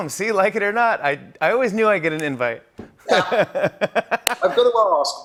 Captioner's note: laughs